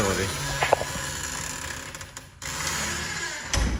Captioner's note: creaking